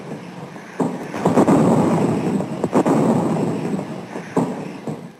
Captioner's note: guns firing; bombs exploding